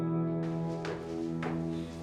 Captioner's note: footsteps thudding